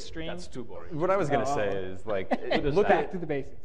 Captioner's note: panelist laughing